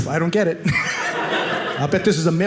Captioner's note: audience laughing